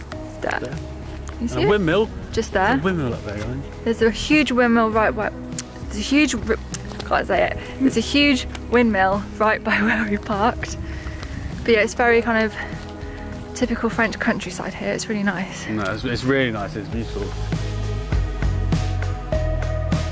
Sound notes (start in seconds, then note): 6.8 stumbles over words